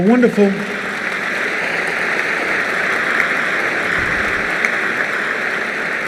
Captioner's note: applause